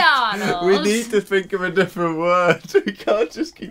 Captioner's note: laughing